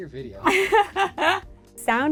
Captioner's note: laughing